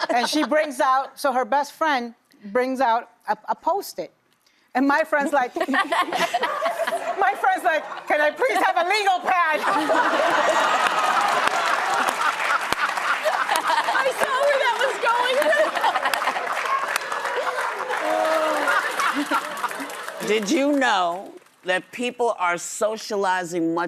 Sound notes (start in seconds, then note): 5.9 audience laughs; 9.8 audience laughs; 12.7 audience applauds; 15.6 audience applauds; 18.6 audience laughs